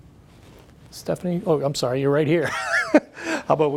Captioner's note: laughs